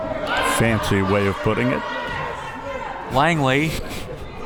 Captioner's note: laughs